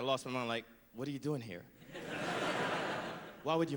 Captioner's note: laughter